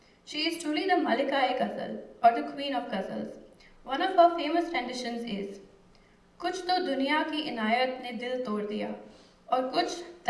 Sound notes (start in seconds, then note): 5.2 non-english speech